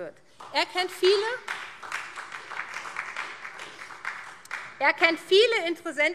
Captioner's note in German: Beifall SPD